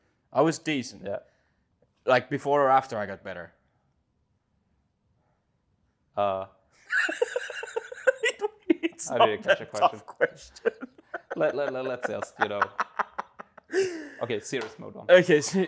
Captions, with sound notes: I was decent. Yeah. Like, before or after I got better? [LAUGHS] It's not that tough of a question. [CONTINUES LAUGHING] Okay, serious mode on.